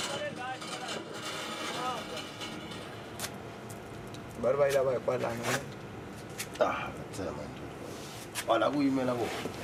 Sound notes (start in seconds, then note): 0.2 workers speaking in foreign language; 3.2 knife scratching; 4.6 workers speaking in foreign language